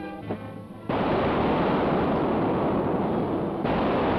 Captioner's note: guns firing